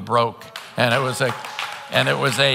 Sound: congregants applauding

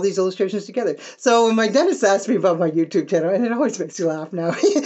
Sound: laugh

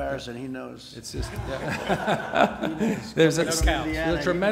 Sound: laughter

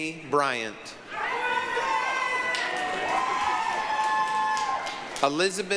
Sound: applause, cheering

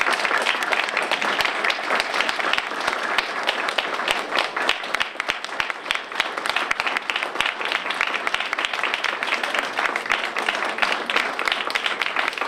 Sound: applause

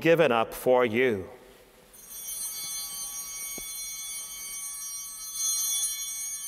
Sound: altar bells ringing

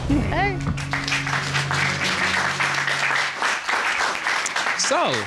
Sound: applause

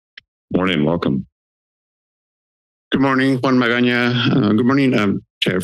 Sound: foreign language

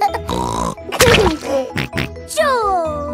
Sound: laughs and snorts

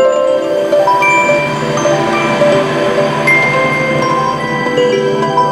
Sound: whirring

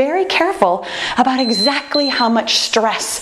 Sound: timer beeping

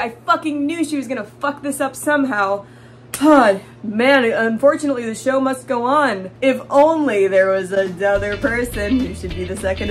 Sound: sigh; happy music

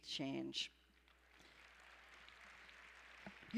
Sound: applause

